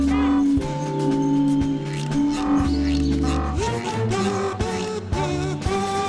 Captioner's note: tooting continues